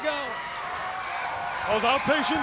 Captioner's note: crowd cheering